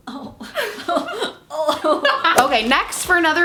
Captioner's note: groans